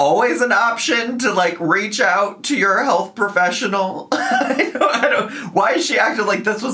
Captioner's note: laughs